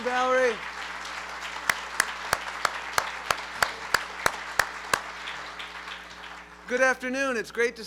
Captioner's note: applause